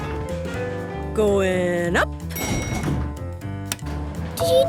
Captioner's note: elevator pings